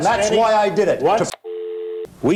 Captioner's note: dial tone